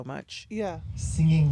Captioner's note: soundbite of tv show, "somebody somewhere"